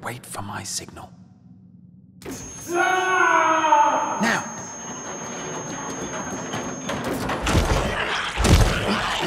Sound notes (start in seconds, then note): 2.2 machine whines, screams; 4.5 trolley being pushed